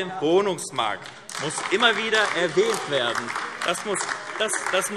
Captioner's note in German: Beifall AfD - Zurufe SPD und DIE LINKE